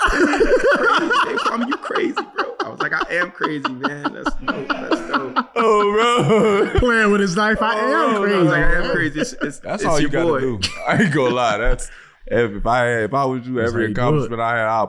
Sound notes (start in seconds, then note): 0.1 laughing; 3.2 laughing; 6.2 laughing